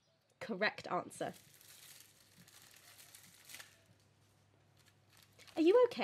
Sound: bag rustling, popcorn popping in microwave

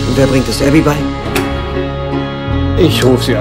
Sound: door is opened

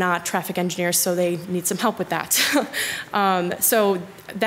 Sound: chuckles

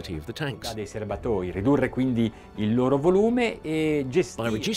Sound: speaking in Italian

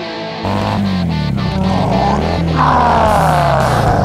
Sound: Mega Rex sounds; car engine running

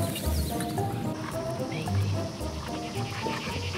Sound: birds singing

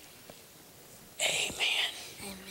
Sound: whispering

